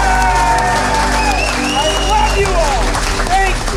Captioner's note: team cheers